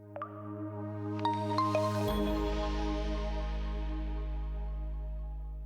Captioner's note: logo chiming